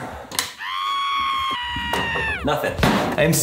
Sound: person screaming

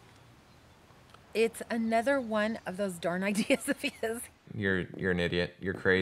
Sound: laughing

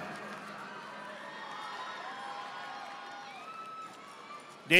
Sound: audience applauding

